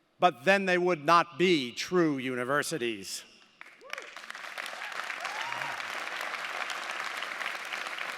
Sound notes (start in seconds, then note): 3.6 audience applauding